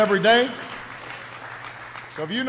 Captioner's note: applause